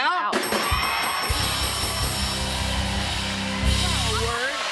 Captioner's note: cheers and applause